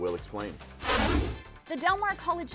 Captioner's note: whooshing